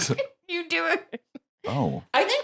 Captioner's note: laughs